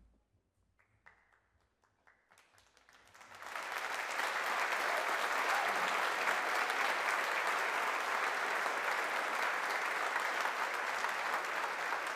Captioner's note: applause